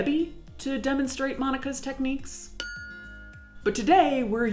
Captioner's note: bell ringing